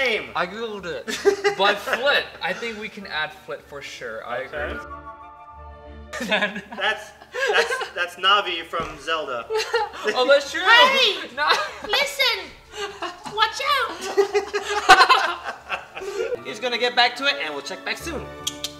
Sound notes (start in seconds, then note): 11.5 high-pitched voice; 13.9 laughter